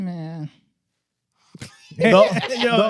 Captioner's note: laughing